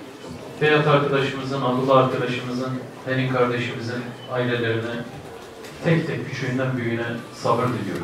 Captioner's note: Selahattin Demirtas speaking